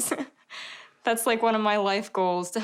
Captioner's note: chuckling